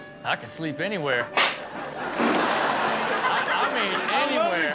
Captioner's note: audience laughs; balloon pops